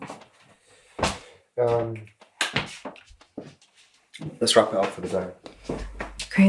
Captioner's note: none